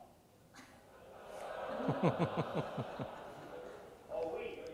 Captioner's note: audience laughter